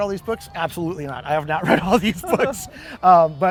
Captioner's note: güler